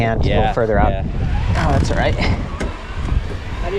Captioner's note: bike humming